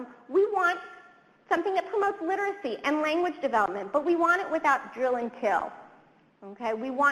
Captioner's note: none